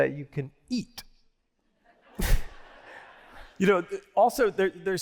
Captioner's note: laughter